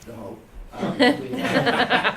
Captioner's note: laughter